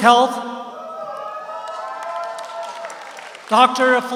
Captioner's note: audience cheers; audience applauds